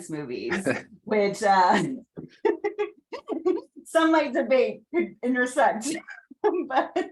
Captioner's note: laughing